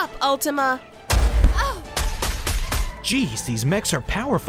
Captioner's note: gunshots firing